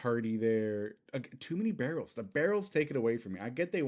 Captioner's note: stammering